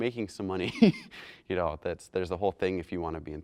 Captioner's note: chuckles